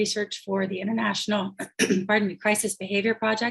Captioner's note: clears throat